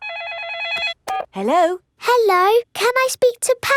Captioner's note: phone rings